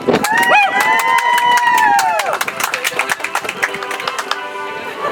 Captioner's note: audience applauds; soft music